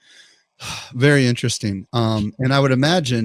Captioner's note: sighs